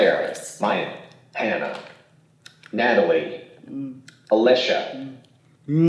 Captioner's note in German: Sprachgerät